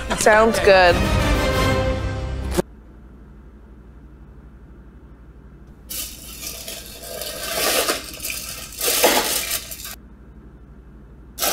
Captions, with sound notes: Sounds good *dramatic music* *crinkling foil* ʸᵒᵘ ˡᶦᵏᵉ ᵗʰᵃᵗˀ